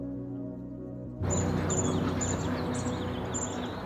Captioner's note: birds chirping